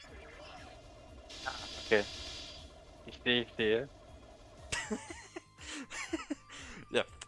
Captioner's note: laugthing